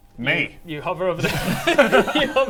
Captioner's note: laughs